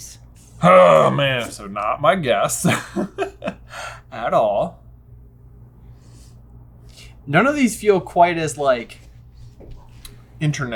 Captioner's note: laughs